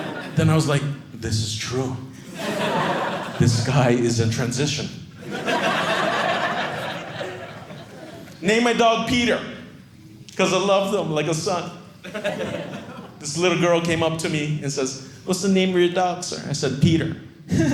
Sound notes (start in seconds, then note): 5.2 audience laughing